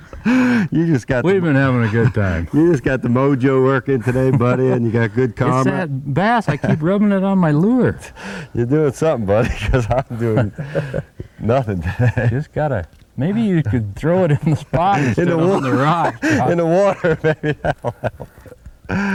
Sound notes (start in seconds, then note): 9.3 laughter